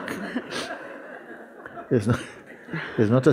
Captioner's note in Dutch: gelach